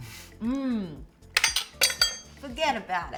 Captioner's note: upbeat music continues; spoons clink